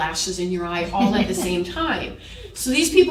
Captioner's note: chuckle